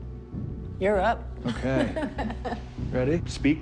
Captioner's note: laughs